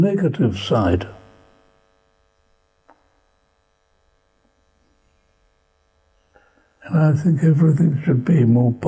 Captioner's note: pauses for 6 seconds